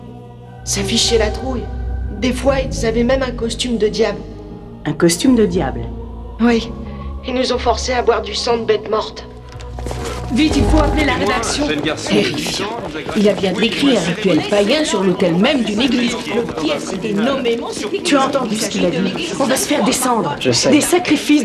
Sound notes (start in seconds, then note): 9.8 all murmuring